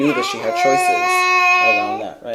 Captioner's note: babbling